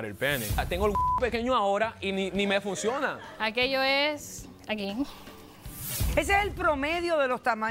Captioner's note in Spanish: Bip; Risas